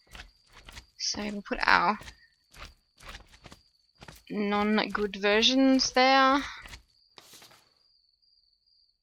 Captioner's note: paper flips